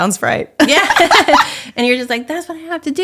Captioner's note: laughs